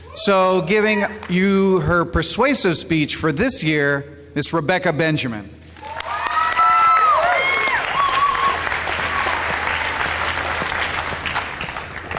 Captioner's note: applause